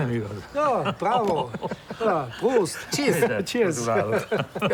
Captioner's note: laughing; laughs